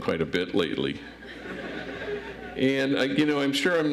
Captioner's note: audience laughs